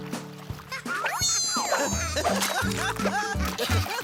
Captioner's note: laughs